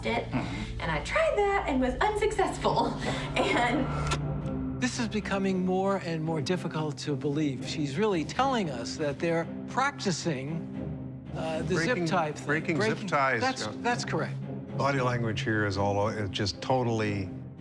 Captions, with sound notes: and I tried that and was unsuccessful. And-- [clicking] This is becoming more and more difficult to believe. She's really telling us that they're practicing the zip tie thing. Breaking ties. That's correct. Body language here is all just totally--